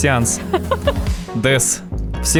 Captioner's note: laughter